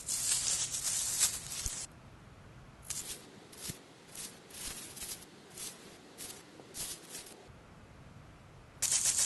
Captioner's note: dried leaves crunching